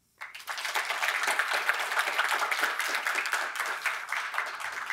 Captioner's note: audience applauds